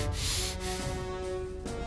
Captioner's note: snorted breaths